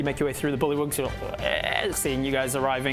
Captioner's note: croak